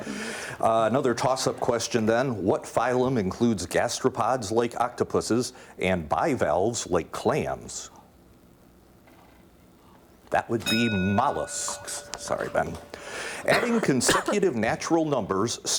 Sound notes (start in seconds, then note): 10.6 ding